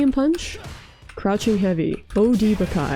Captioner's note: punch